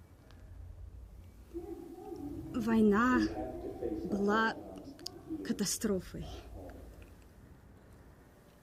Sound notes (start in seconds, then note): 2.7 speaks in foreign language